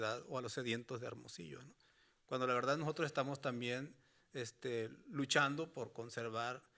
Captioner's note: speaking Spanish continues